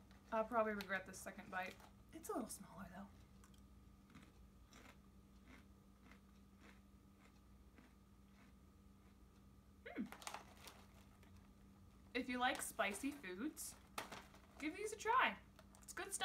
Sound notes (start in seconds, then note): 4.4 crunching chips